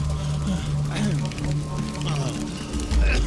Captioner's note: groaning